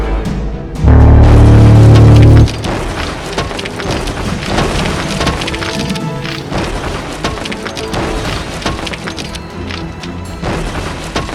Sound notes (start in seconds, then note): 2.7 machine rumbling; 2.7 steps thudding